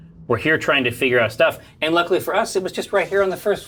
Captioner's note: none